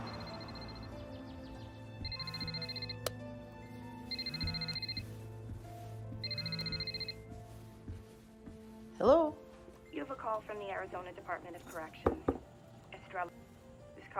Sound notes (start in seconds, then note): 0.3 phone ringing